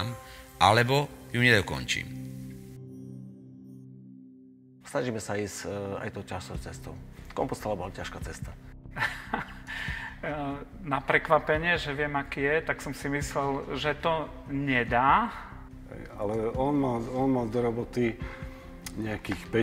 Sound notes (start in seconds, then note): 9.0 laughs